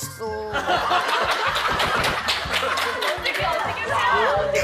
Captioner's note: laughing out loud